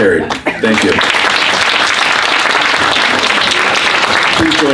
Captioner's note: applause